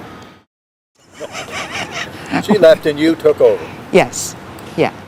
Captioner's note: laughs